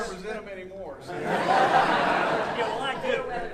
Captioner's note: audience laughing